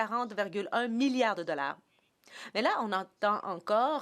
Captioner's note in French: voix de l'interprète